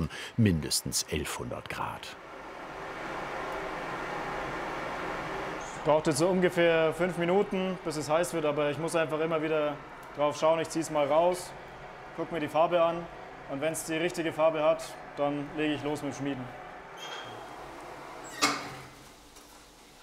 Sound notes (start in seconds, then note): 2.5 steady hissing